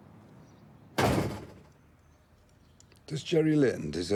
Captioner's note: door bangs